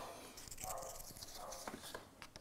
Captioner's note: distant barking